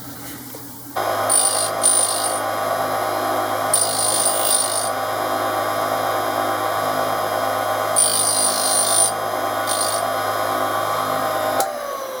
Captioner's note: tool grinding